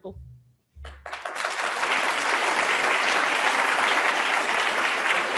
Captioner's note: students applauding